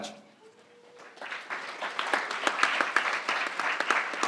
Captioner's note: crowd applauding